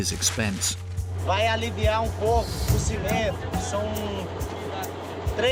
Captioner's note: Portuguese spoken audio